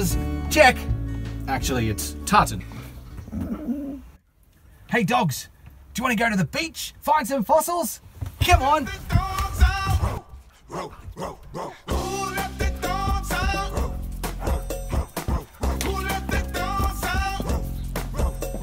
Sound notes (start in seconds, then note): 3.2 dog whine